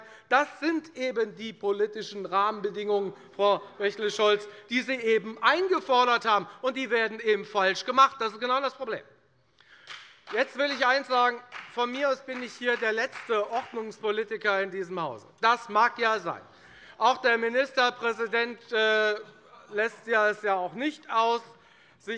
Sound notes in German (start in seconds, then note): 9.8 Beifall bei der FDP - Zurufe von der SPD